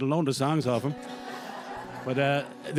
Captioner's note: audience laughs